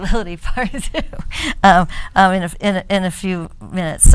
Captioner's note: woman laughs